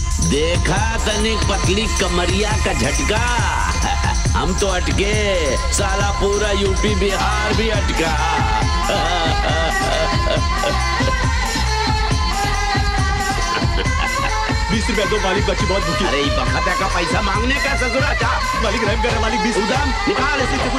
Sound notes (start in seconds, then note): 8.6 Laughs